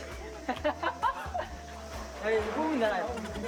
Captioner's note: laughing